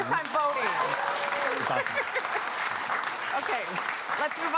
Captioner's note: applause